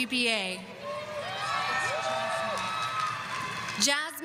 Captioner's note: audience applauding